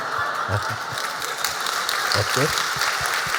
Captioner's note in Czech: Potlesk